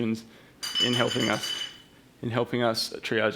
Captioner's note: bell clacking